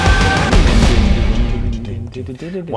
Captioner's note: totally distracted dededer noises